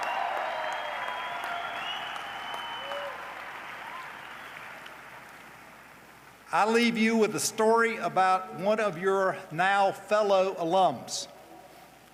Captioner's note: cheers and applause